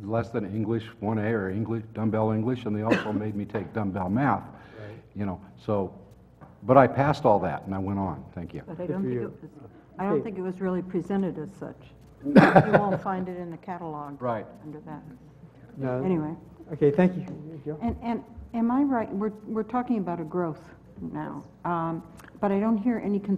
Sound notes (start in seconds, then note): 12.2 laugh